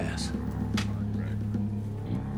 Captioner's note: pamphlet drops